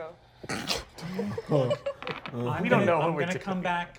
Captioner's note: snickering